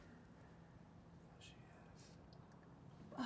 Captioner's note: whispers